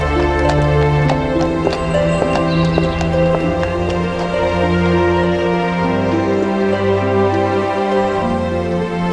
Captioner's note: horse walking on road